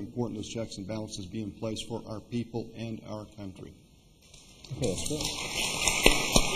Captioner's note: applause